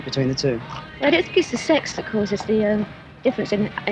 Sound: woman voiceover

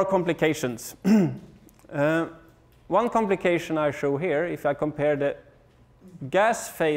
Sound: cough

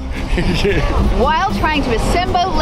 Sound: laughing

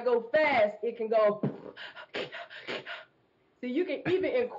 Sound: beatbox percussion

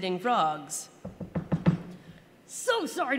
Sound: knock knock knock

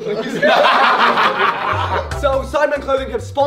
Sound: all laugh

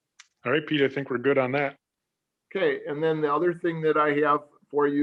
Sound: none

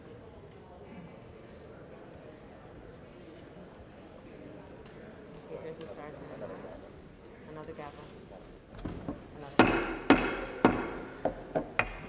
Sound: gavel

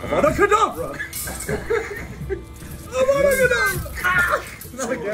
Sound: laugh

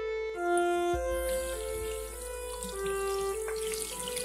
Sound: water sound

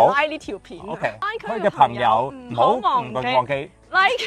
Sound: Cantonese

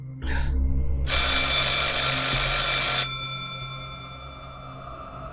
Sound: phone rings

